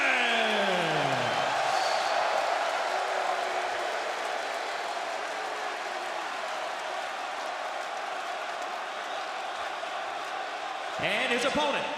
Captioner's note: crowd cheering